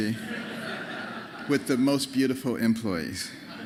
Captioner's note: laughter